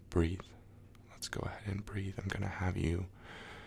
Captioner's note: inhale